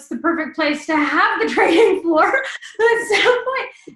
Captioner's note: laughs